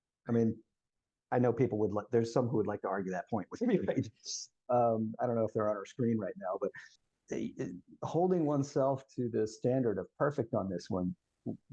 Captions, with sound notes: I mean, I know people would like, there's some who would like to argue that point. (both laughing) I don't know if they're on our screen right now, but holding oneself to the standard of perfect on this one